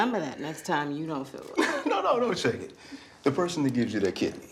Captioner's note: laughs